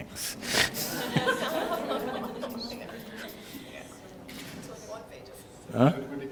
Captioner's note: laughter